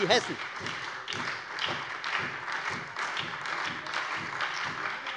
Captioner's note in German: Lebhafter Beifall bei der FDP und der SPD